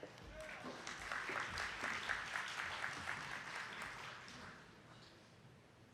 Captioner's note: attendees clapping